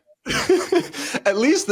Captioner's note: laughs